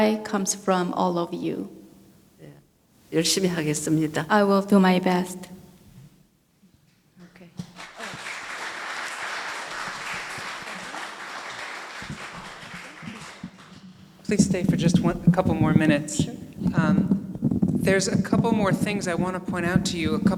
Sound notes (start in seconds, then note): 3.3 speaking foreign language; 7.6 audience applauding